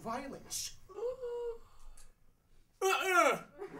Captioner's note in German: Atemzug